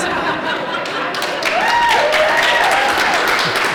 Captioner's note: laughter; applause